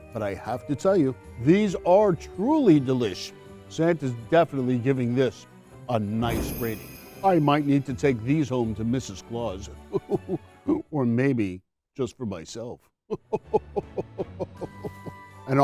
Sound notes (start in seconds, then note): 6.1 bells ringing; 9.9 chuckles; 13.1 chuckles